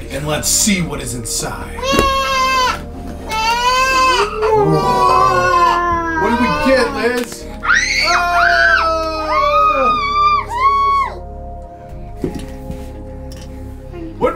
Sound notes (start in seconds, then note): 3.3 wails; 7.6 screams